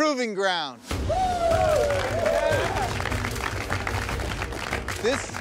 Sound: competitors cheering

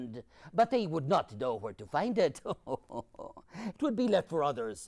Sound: laughs

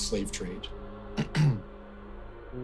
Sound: clears throat

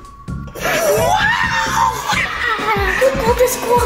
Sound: family cheering

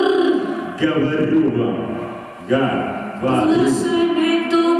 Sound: speaking Russian

